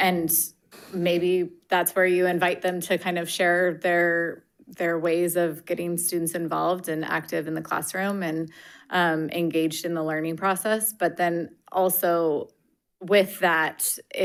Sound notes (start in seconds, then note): none